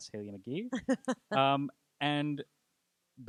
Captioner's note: laughing